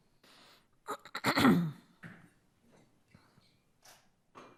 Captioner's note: clearing throat